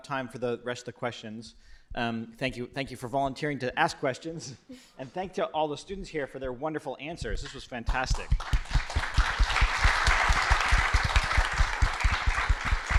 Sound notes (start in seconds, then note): 8.1 applause